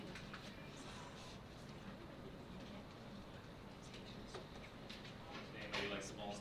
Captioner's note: board members whispering